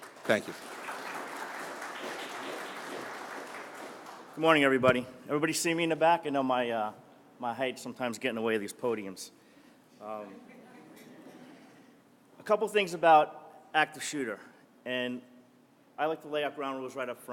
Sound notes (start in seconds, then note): 0.0 applause; 10.3 laughter